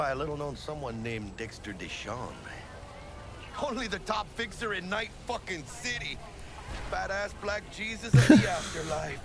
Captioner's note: laughs